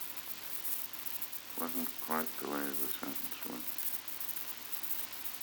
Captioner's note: Murrow, mumbling